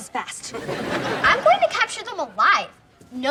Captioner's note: laughs